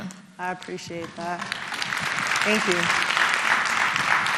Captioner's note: applause